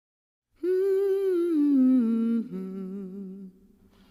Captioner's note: woman humming